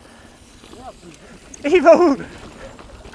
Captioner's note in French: rires